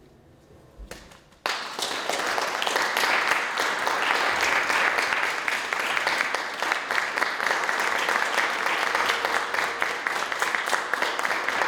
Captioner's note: audience Applause